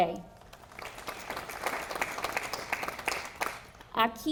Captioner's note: audience applauding